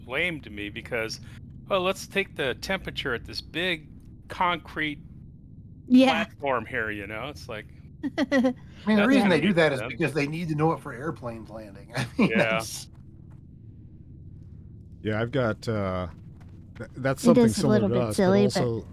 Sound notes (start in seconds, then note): 8.8 laughs